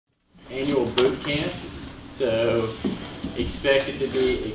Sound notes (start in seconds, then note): 0.7 voiceover